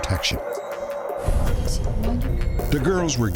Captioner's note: speaking russian